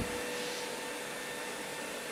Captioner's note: soft humming